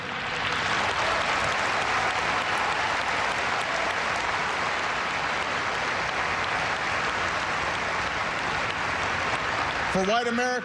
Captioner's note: applause